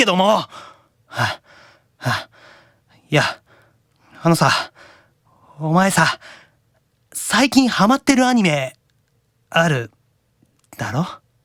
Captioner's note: pant